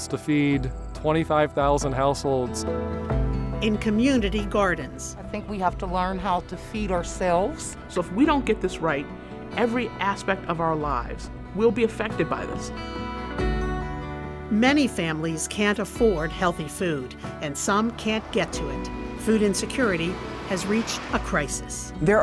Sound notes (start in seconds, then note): 18.5 buzz engine hums